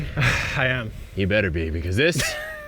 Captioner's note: sighs; laughs